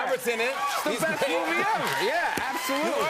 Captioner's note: cheers and applause